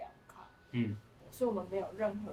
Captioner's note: mmm…